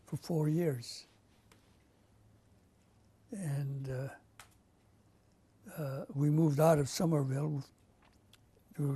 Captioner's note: pauses for 3 seconds